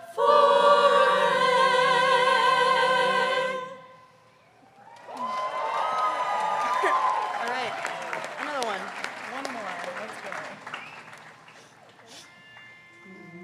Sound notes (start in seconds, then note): 4.6 crowd cheering